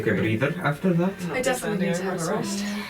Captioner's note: murmuring agreement